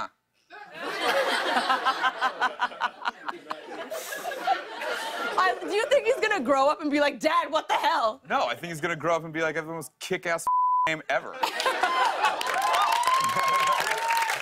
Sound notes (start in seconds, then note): 0.6 laughter; 11.3 laughter; 11.5 cheers and applause